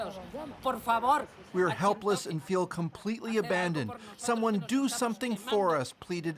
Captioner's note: speaking alternate language